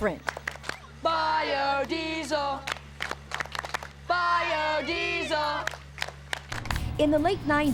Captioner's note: kids chant "bio-diesel, bio diesel"